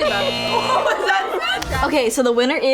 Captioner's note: buzzer sounds